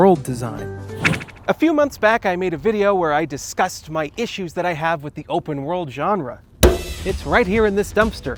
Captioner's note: hit dumpster